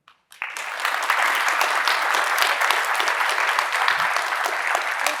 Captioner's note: audience applauding